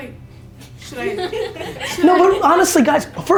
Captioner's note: laughs